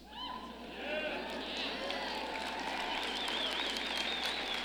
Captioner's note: audience cheering